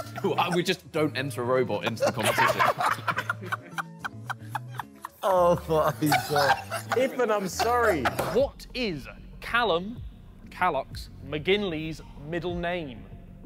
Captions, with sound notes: - We just don't enter robot into the competition. (laughing) - Oh my God. Ethan, I'm sorry. - What is Callum "Callux" McGinley's middle name?